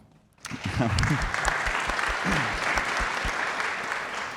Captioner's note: audience applauding